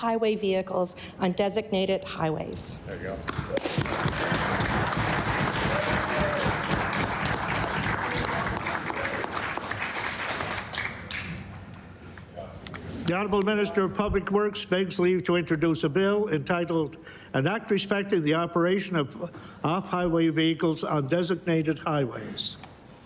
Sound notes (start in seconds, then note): 6.1 applause